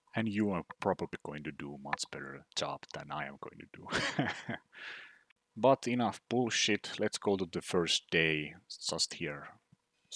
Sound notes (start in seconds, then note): 3.9 laughs